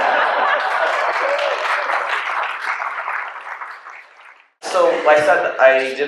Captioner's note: cheers